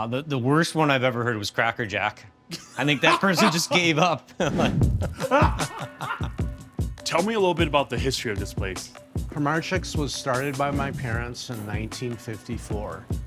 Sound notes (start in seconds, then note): 2.5 laughs; 5.5 laughs